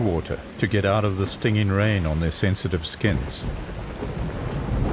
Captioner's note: animals calling